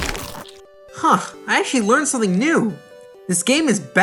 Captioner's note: neck snaps